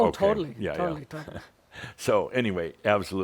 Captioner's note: Adamus chuckles